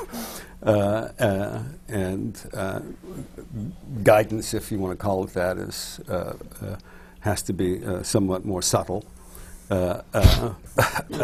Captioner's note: laughs